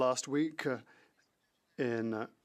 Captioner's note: speaking French